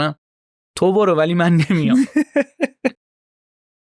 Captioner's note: laughs